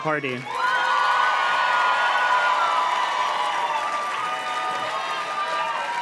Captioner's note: audience cheers and claps